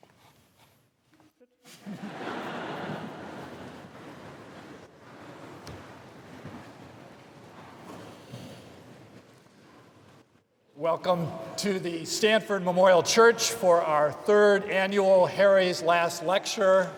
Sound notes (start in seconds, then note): 1.6 laughter